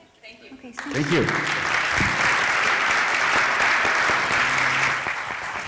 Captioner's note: applause